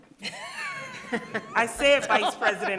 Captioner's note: people laughing